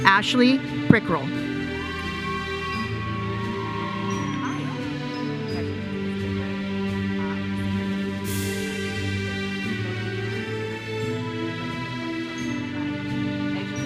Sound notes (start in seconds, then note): 1.8 audience member cheers